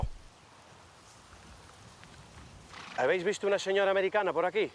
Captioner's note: speaking spanish